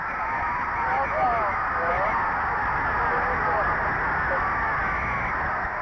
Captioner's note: referee whistling; crowd cheering